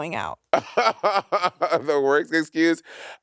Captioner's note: Monét laughing